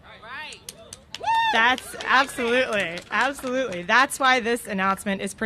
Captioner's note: cheers and applause